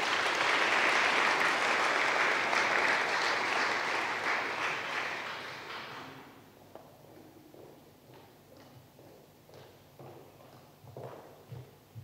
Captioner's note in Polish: oklaski